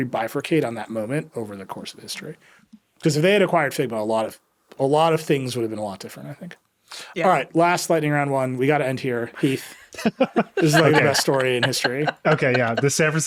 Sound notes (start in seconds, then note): 9.3 laughing